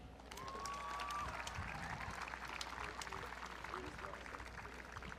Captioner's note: audience cheering